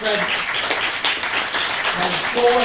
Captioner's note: applause